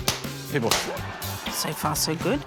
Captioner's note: pop!